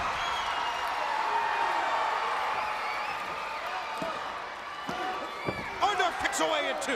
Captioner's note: crowd chatter